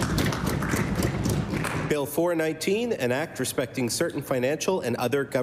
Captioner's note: applause